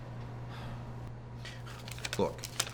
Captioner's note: sighs